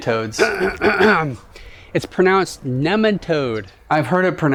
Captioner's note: cough